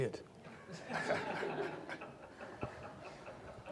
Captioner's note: audience laughs